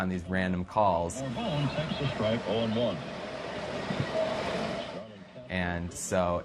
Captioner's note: radio